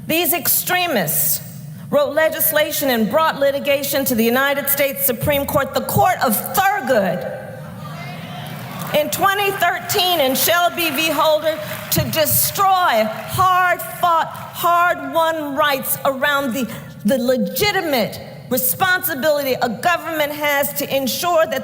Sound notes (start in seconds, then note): 8.2 applause